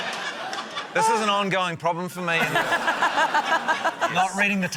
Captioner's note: laughter